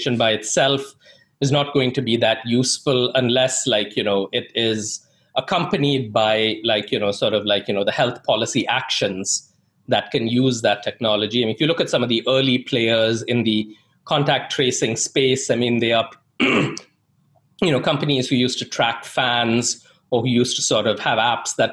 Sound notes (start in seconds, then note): 16.4 clears throat